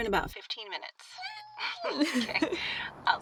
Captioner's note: laughs; Stephanie squealing